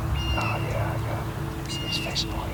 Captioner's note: whispering